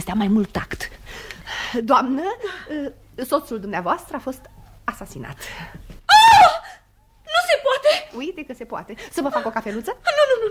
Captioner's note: the woman screams